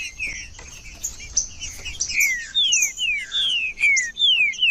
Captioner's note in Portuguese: trinca ferro cantando